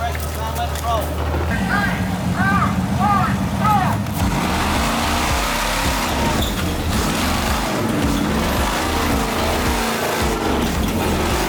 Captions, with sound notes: - Three, two, one, go! (engine revving)